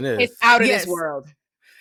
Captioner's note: laughs